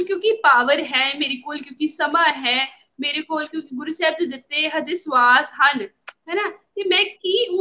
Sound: breath

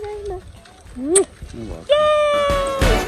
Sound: kisses

